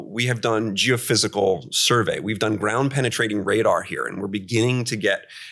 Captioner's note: none